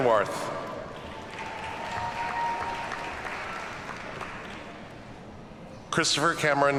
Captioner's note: audience cheers and applauds